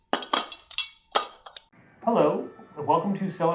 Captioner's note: can clattering